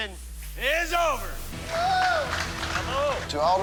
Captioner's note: cheers and applause